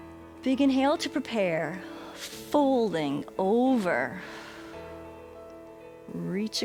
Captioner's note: exhales